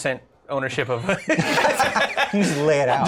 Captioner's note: laughter